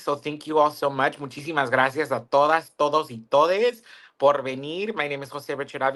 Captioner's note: speaks in Spanish